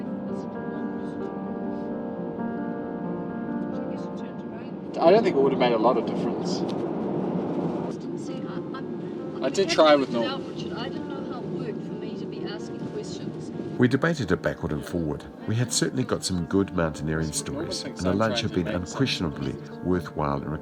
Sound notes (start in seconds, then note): 0.1 melancholy piano music; 3.7 muffled voices chatting